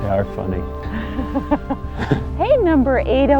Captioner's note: both laughing